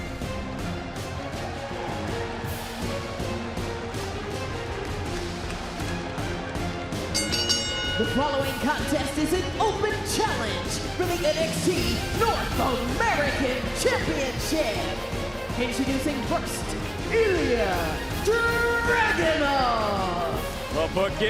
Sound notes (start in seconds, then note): 7.1 bell rings